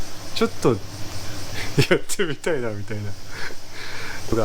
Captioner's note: laughs